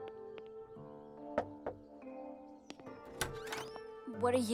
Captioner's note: knock on the door